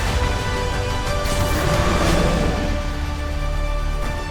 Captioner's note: Winston roars; music crescendos